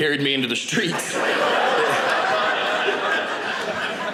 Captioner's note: audience laughing